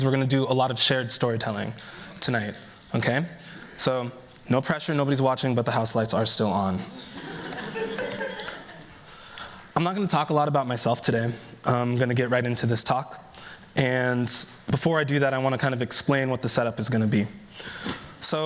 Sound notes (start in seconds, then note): 6.9 laughter